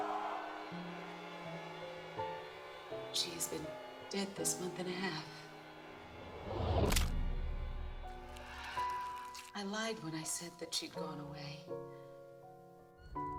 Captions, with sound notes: (screaming) "She has been dead this month and a half. (thudding) "I lied when I said that she had gone away.